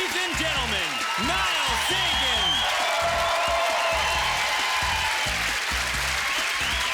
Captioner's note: cheering